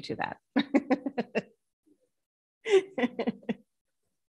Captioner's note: laughs